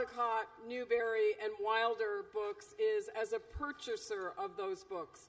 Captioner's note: none